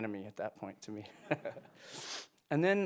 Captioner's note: chuckles